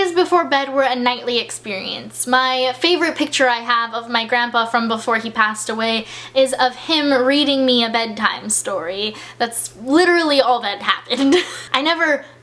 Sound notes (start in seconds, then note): 11.2 laughs